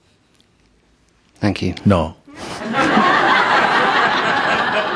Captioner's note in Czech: Smích